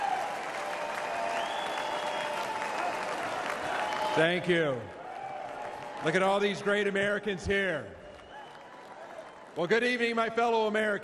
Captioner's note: applause